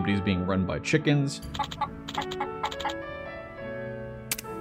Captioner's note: clucking sounds